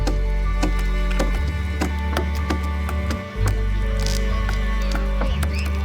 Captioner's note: tools banging continues